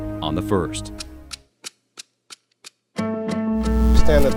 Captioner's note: ticking